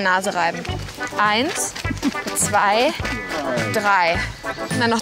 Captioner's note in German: Lachen